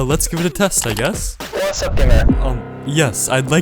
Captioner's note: A.I. Voice, Garbled